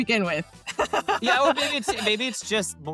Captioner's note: laughs